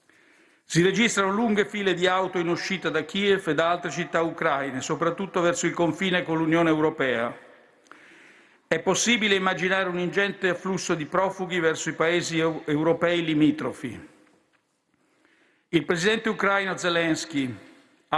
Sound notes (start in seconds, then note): none